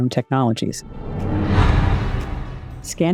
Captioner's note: whoosh sound effect